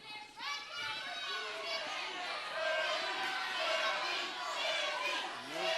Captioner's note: crowd cheering